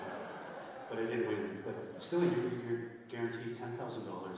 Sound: laughter

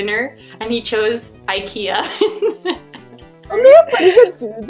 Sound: laughs

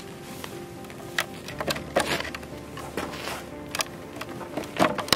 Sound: wood separating

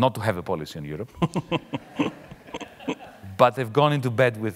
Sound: audience laughing lightly

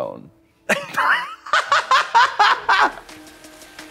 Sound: blonde women hee-hawing; upbeat music

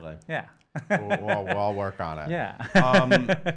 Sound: laughs

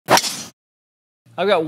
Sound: golf ball swinging

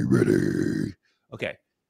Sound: speaking normally

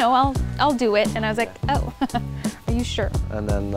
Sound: chuckle

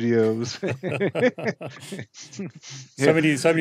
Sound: both laughing

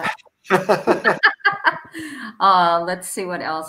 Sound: laughter

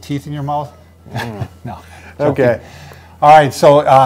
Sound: laughs

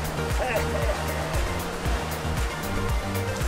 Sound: laughs

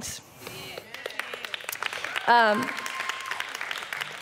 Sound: audience applause

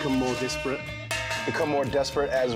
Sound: cowbell clangs

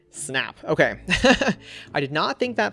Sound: laughs

